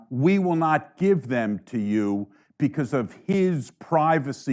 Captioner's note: none